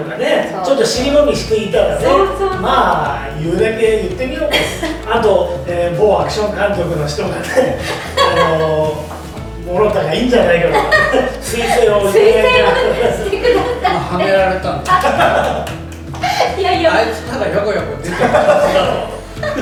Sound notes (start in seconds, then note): 12.8 laughs